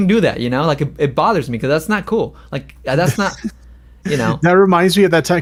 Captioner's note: laughs